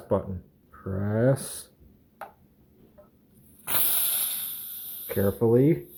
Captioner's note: air hissing